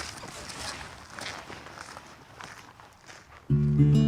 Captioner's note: footsteps; gentle acoustic guitar